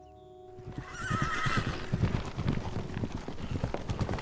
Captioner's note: horse neighs